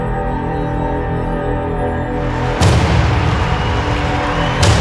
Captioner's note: crowd cheering